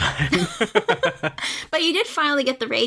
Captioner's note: laughs